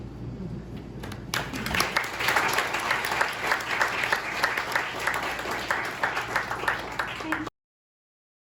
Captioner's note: applause